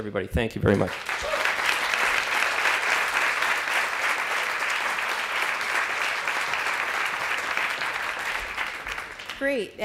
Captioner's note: applause